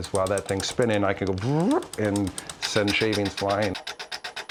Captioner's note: makes whooshing sound